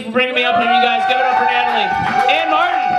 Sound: audience cheers

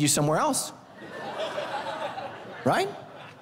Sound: congregation laughing

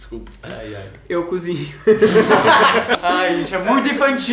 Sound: inserts laughing

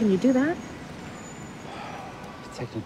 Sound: sighs

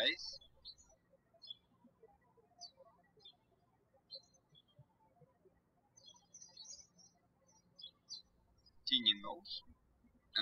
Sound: birds chirping

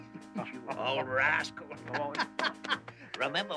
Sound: laughs

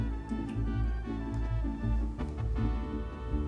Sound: none

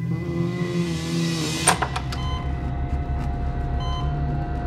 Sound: machine beeping

